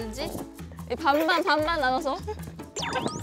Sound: teehee

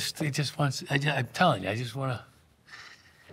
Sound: breathes deeply

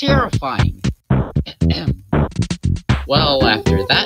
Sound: ahem

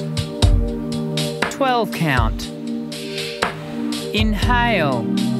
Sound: voiceover

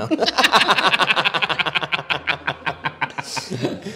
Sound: embarrassed Laughter

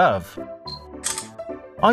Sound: camera shutter sounds

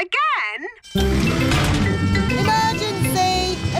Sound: siren blaring

